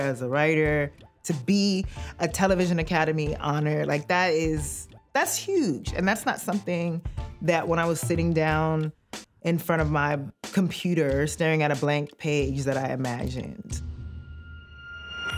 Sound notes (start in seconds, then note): none